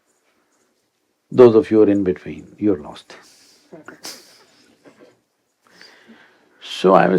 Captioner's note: laughs